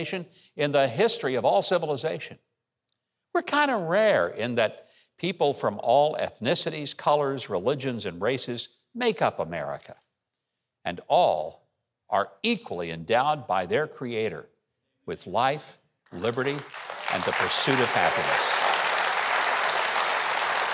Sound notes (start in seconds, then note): 16.1 audience applauds